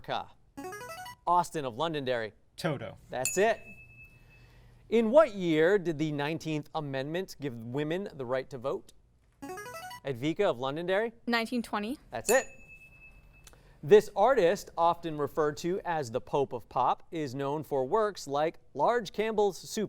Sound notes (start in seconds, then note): 0.6 signaling device tone; 3.2 ding; 9.4 signaling device tone; 12.2 ding